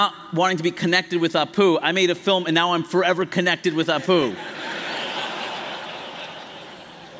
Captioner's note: laughter